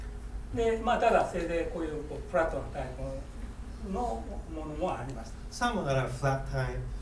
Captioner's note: speaking in foreign language